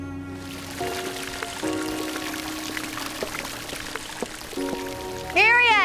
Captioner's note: water gurgling, splashing